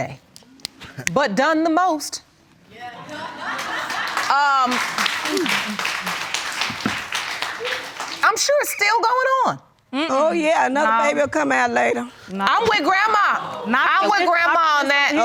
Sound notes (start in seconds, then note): 0.2 chuckles; 2.9 audience laugh